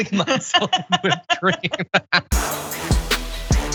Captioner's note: laugh